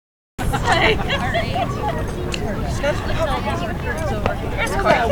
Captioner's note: pirate chatter